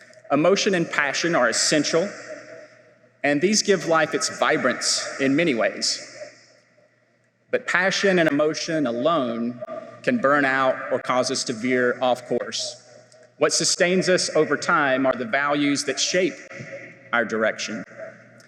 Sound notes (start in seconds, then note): none